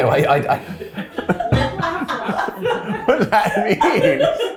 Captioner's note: all laughing; head thuds